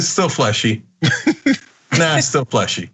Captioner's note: laugh